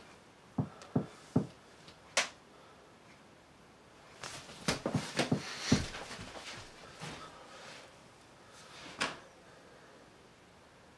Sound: knocking

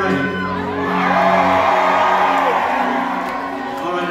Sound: cheering

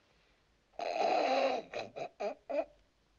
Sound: snickering

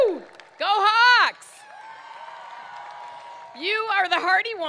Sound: crowd cheering

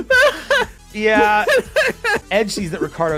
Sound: laughter; laughs

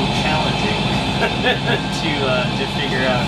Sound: laughs

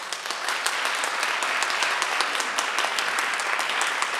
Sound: audience applauding

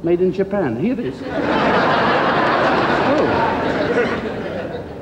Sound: crowd laughs

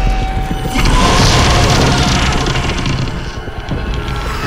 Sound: monster growls

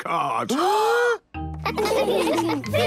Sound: both gasping

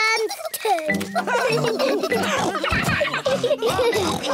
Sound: all laugh

